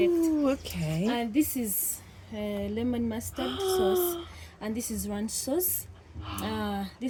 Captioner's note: gasp